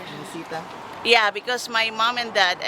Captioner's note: murmurs